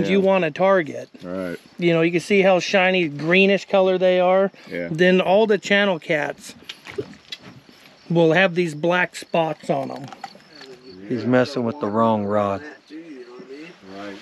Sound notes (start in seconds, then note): 11.0 background chatter